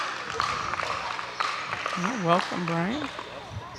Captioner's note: audience applauding